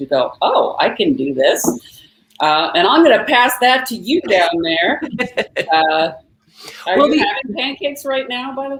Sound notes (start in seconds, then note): 4.7 laughing